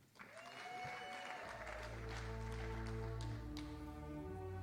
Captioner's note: audience applauding